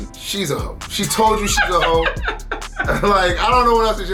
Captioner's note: laughs